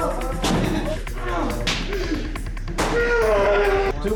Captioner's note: grunting